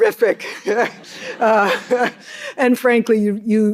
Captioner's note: all laughing